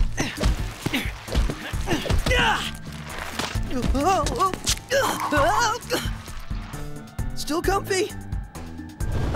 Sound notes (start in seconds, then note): 4.3 yelps